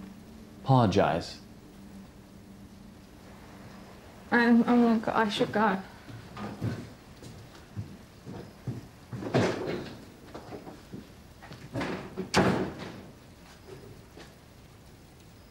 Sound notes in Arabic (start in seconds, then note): 9.5 أصوات مغادرة سيليس